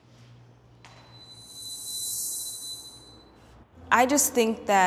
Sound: bell ringing

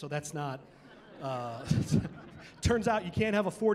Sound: laughing

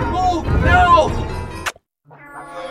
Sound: kiss

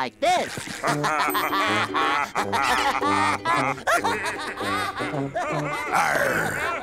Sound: laughing to tune

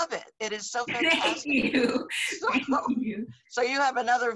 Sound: laughs

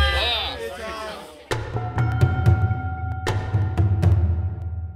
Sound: bells

